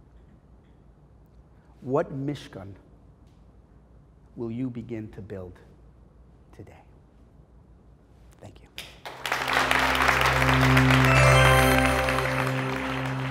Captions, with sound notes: What [Hebrew] will you begin to build today? Thank You. [Applause]